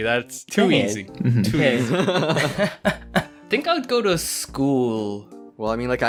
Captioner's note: laughing